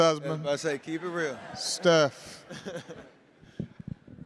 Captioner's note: laughter